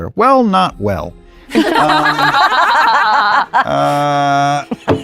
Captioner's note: laughter